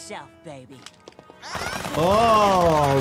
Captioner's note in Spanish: armas golpeando